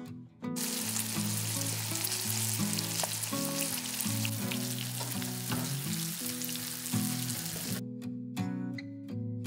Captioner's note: hissing